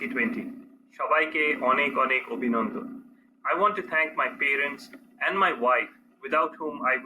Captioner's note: non-english speech